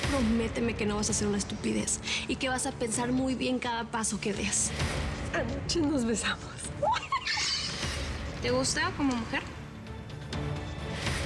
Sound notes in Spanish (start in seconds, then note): 6.8 risas